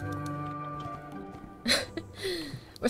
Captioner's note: giggles